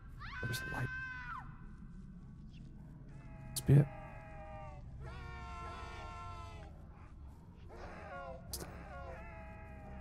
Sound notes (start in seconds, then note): 3.8 cawing